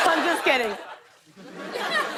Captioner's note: laughter